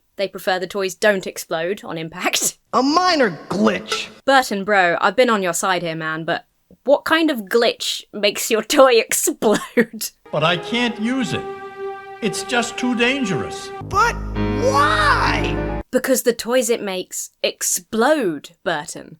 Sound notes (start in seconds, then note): 3.6 metal clanks; 9.4 laughs